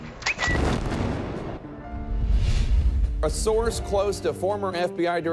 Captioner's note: explosion booming